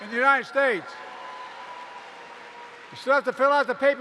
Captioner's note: applause